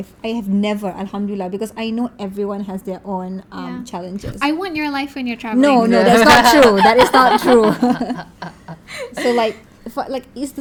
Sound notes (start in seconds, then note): 5.8 laugh